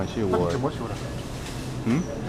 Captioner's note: mandarin